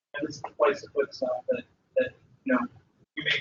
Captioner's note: talking